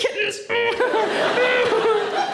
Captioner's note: laughter